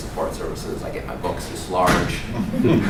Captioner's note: laugh